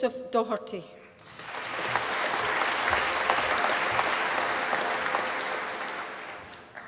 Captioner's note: applause